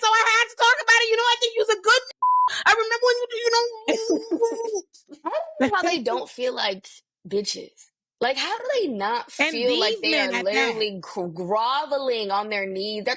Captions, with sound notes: so I had to talk about it. You know, I could use a good (beep) I remember when you know me. (laughing) I don't know how they don't feel like bitches. Like how do they not feel like they are literally groveling on their knees.